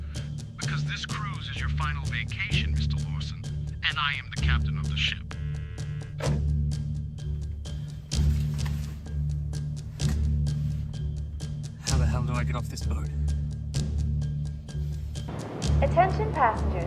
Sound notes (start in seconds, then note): 5.8 suspenseful music; 13.4 bright chime